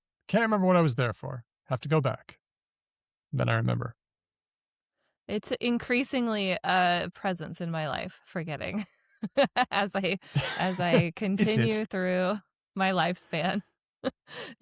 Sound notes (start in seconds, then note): 10.1 laughs; 13.7 chuckles